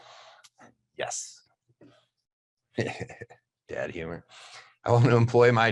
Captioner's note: laughing